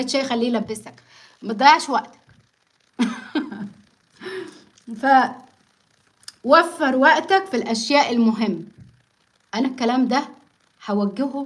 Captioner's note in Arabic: ضحك